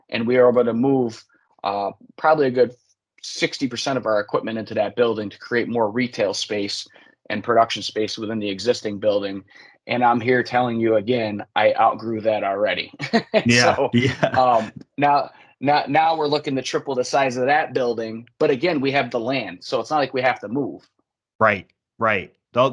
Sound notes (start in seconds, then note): 13.4 laughs